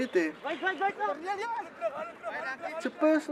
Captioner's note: shouting in afrikaans